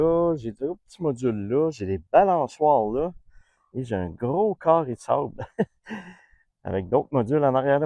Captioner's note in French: rires